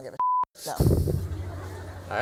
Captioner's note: laughter